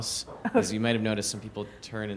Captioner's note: chuckles